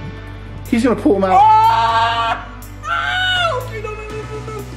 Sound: screams

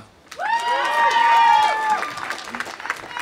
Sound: audience applauding; audience cheering

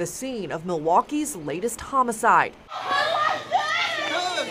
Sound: yelling

